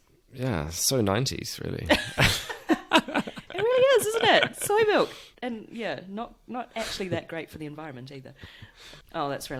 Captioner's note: laughs